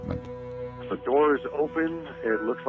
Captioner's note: 911 recording